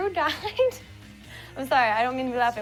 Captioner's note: laughs